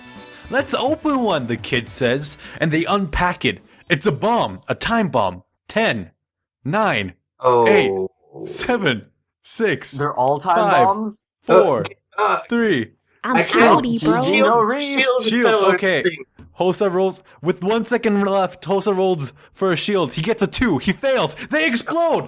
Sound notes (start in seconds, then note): 13.3 more panicking